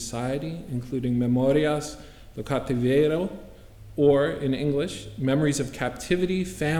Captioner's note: spanish